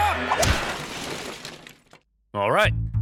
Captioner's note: crashing